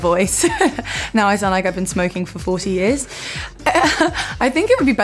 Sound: laughs

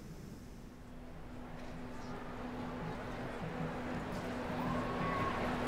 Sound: crowd chattering, city noise

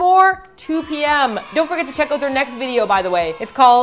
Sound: kids cheering: yay!

